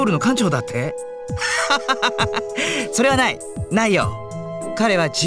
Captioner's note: laugh